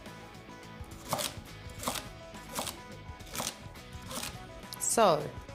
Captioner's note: knife chopping